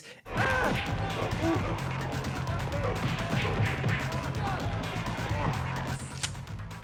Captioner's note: blows thudding